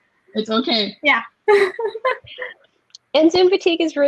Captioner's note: laughing